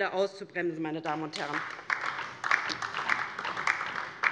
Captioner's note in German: Beifall DIE LINKE